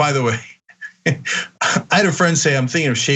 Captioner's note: laugh